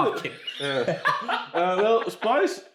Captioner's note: laughs